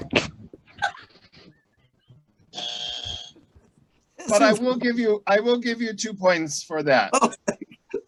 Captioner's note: buzz